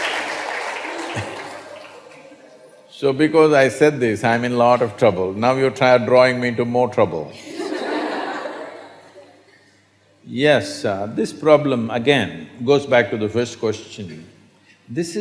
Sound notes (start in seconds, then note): 0.0 laughter/Applause; 7.3 laughter